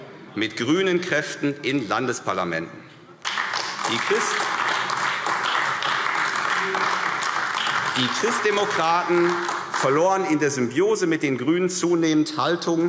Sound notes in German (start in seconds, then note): 3.2 Beifall AfD